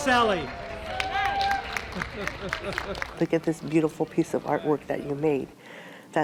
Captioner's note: applause